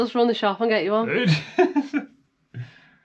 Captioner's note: laughs